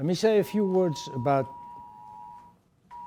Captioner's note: siren